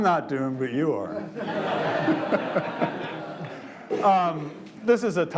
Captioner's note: audience laughs